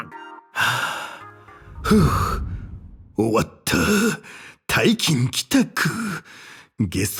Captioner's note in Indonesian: Huff